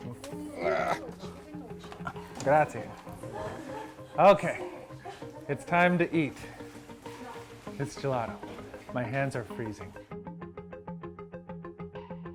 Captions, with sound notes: (grunts) Grazie. Okay. It's time to eat this gelato. My hands are freezing.